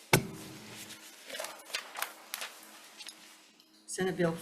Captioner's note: paper rustling